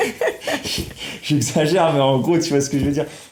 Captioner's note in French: Rires